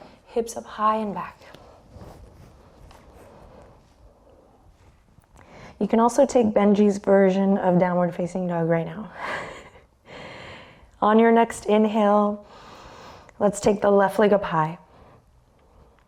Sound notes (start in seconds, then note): 9.3 chuckles